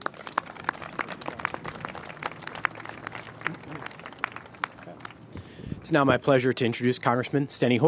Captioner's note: applause